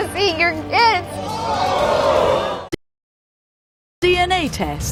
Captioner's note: audience gasps